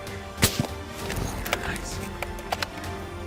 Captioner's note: gunshot